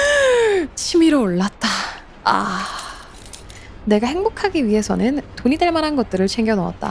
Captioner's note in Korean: 헉 소리